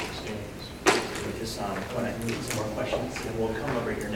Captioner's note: speaking faintly